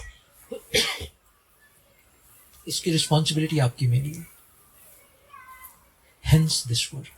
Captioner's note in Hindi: खांसने की आवाज़; गला साफ़ करने की आवाज़